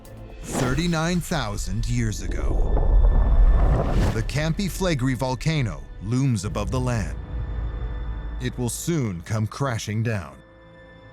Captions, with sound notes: thirty-nine thousand years ago. [deep rumble] The Campi Flegrei volcano looms above the land. It will soon come crashing down.